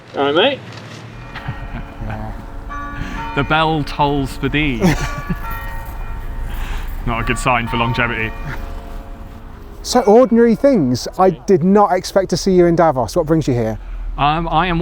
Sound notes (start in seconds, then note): 1.2 laughing; 3.3 church bell chimes